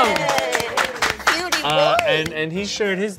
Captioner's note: people applauding